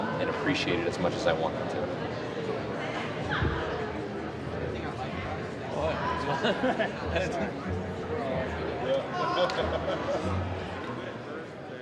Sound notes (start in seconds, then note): 3.2 chatting in background; 3.2 whimsical music